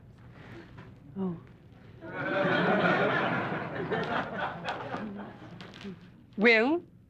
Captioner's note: whispering; audience laughs